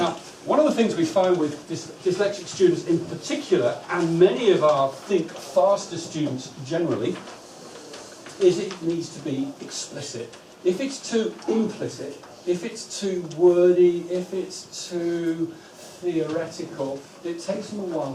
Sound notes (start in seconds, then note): none